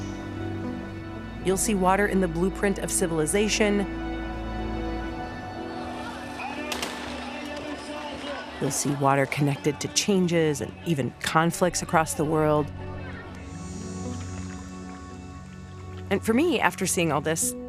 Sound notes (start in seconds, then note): 6.6 people talking, distant gunfire